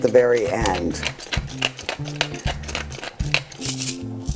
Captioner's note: pepper grinder clacking